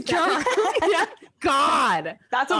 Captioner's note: both laugh